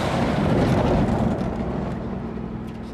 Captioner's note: engines rumbling